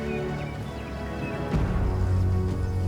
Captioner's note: birds chirping